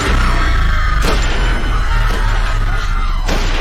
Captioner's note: crowd screaming; gunfire